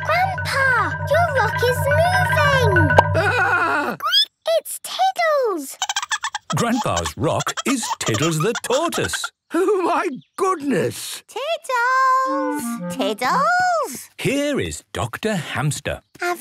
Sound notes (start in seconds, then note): 5.9 squeaking; 5.9 Tiddles giggling